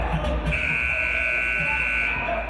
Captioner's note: buzzer